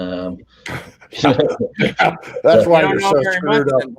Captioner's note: all laugh